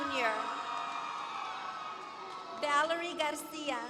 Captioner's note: applause